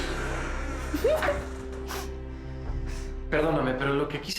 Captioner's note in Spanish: Ruido al cerrar